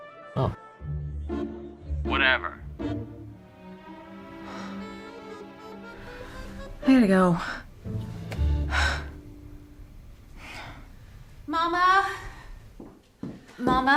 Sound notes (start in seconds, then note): 4.4 sighs; 8.4 sighs; 12.2 footsteps